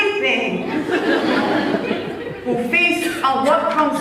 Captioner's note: laughs